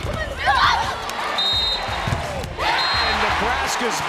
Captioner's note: cheering; whistle